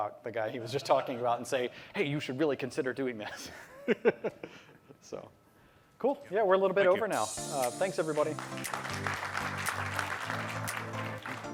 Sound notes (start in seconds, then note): 3.3 laughter; 8.0 applause